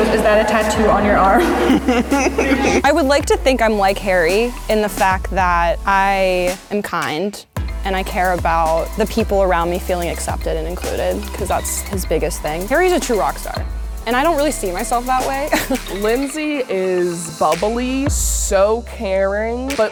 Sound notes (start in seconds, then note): 1.9 girls laughing